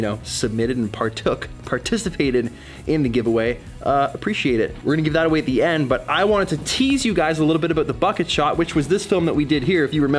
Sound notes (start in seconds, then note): none